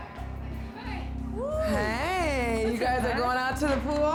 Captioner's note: daters cheering